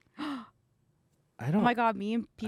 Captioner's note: gasps